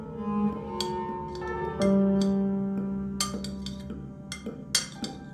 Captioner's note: sound of utensils hitting plates